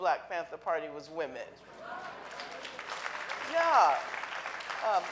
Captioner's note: audience applauding